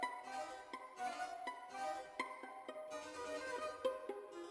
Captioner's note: none